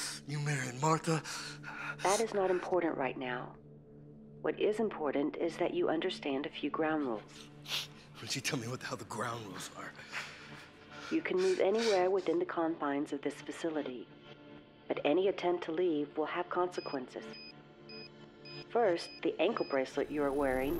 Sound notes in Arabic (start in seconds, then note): 16.9 صوت صفير